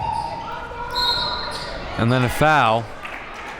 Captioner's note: whistle blows